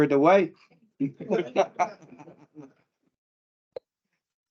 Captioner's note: panel laughs